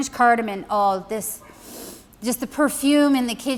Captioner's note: sniffing